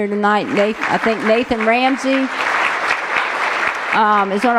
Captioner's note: applause